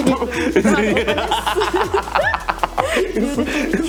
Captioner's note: laughing